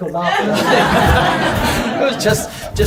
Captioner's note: audience laughs